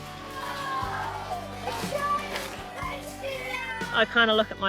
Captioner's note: cheers